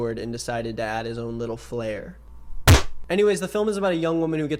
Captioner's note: tail smacks